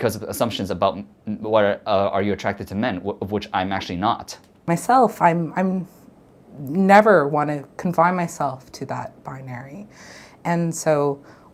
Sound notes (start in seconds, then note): none